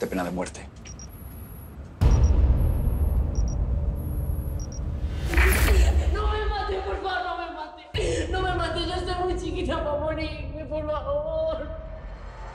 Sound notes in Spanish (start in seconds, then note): 5.7 Sonidos electrónicos